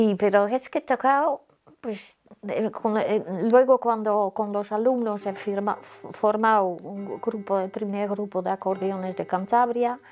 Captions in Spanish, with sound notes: Pero es que he tocado. Pues luego, cuando con los alumnos he formado un grupo, [campanadas de reloj] el primer grupo de acordeones de Cantabria.